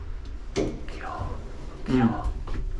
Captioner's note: whisper